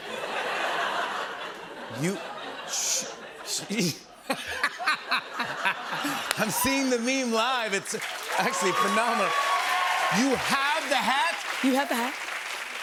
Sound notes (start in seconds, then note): 0.0 laughter; 4.2 laughs; 8.7 cheers and applause